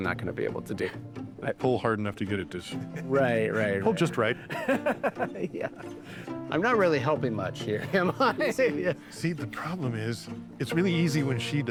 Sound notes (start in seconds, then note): 5.5 laughs; 7.8 laughs